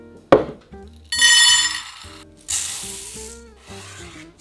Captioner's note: lentils dropping